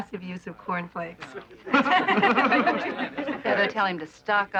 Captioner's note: laughing